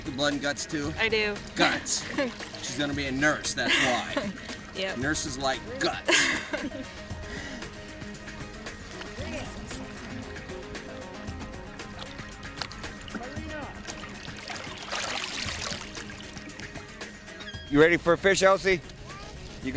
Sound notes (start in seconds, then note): 5.8 woman laughs